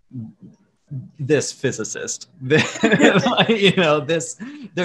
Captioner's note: laughs